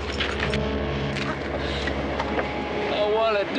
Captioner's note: sobbing